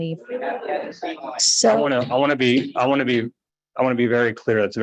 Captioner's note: members chattering